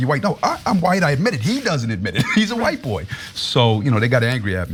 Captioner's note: laugh